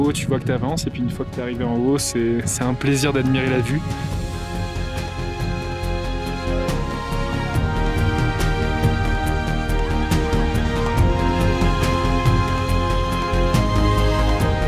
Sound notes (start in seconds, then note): 9.6 applause